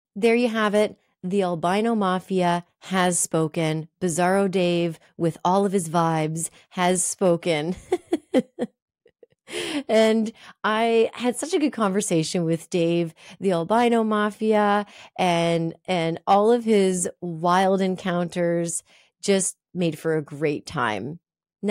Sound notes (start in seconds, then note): 7.8 laughs